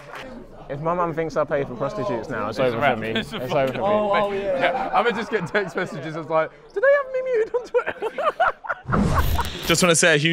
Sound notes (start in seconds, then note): 6.7 mimicking Mom's voice; 8.4 Sidemen laugh; 9.2 logo whirring